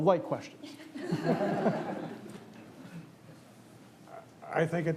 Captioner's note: audience laughs